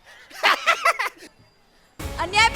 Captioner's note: laughing